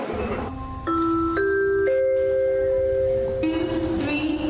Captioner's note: announcement chiming